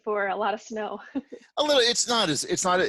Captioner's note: chuckles